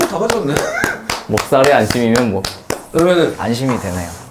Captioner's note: clapping / proud